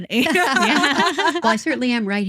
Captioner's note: both Laughing